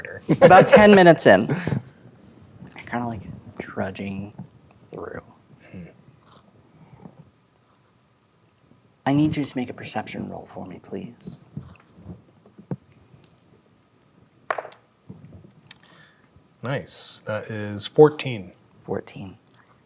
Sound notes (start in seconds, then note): 14.5 dice rolling